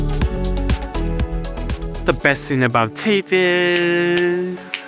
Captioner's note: clicks fingers